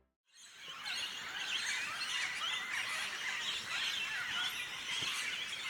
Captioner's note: bird sounds